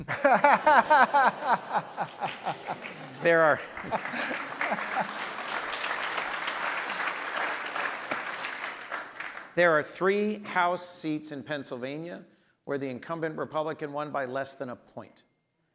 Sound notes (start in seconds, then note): 0.0 audience laughs; 4.7 audience applauds